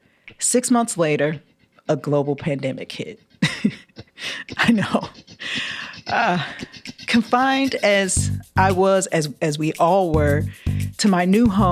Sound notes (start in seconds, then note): 3.4 laughter; 5.1 gasps